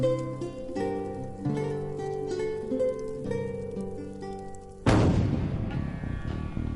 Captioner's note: gentle music; gunshot